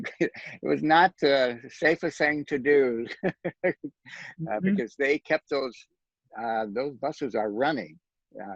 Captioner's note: laughs